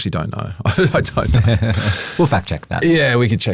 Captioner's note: both chuckle